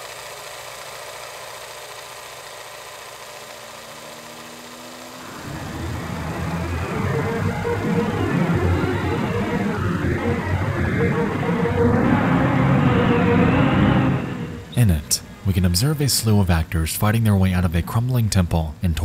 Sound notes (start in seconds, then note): 7.0 dramatic music; 7.0 wind howls